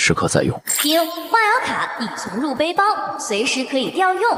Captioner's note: ding!